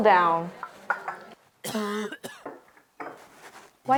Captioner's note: male cough